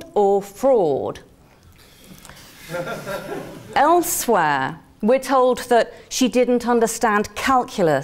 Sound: laugh

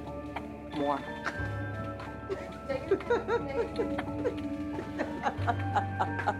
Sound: laughs

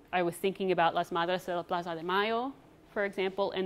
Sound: speaks foreign language

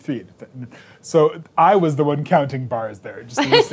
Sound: laughing

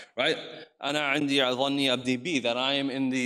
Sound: speaks in foreign language

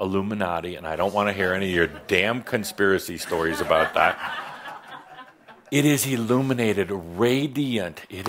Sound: laughter

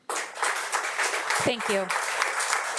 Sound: audience applauding

